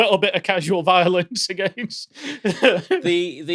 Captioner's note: laughs